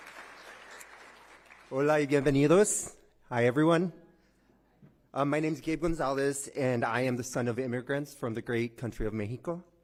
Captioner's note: applause